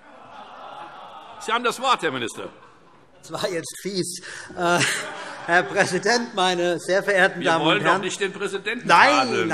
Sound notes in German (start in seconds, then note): 4.6 Allgemeine Heiterkeit